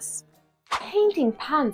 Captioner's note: swoosh!